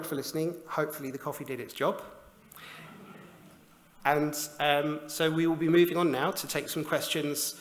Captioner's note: laughter